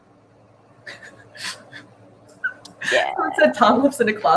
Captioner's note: snickers